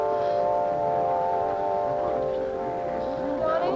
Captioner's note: people clamoring